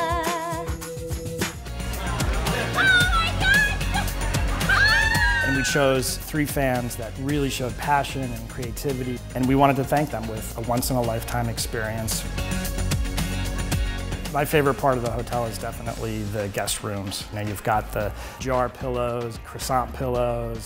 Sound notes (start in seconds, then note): 2.7 shrieking